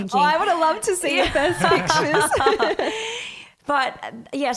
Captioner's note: laughs